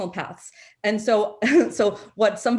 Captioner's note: chuckles